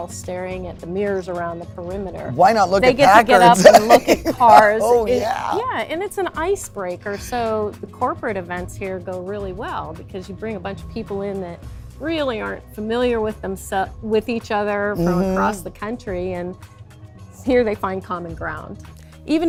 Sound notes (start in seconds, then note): 2.8 laughing